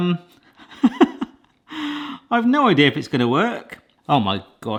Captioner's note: laughs